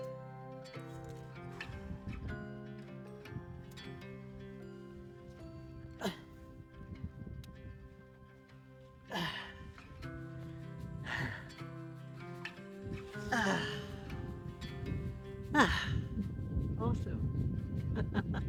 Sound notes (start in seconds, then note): 0.2 gentle music; 11.5 relieved breathing; 17.8 chuckles